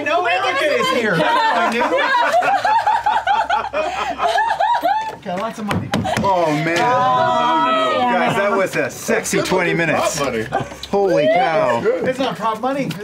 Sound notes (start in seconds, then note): 4.1 laughter